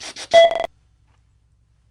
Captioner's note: beep